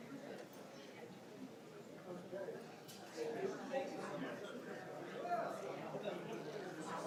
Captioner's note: audience members talking, moving around